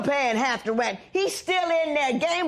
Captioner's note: none